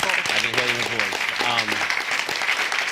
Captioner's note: applause